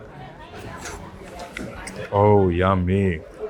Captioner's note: people chatter; slurps